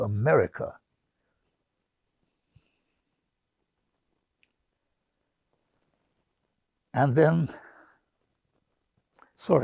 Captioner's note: pauses 6 seconds